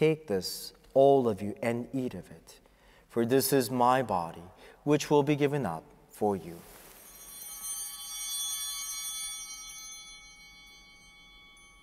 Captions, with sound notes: "Take this, all of you, and eat of it. "For this is my body, which will be given up for you." (Bell ringing)